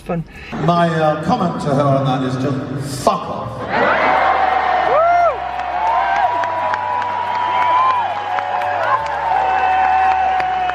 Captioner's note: cheers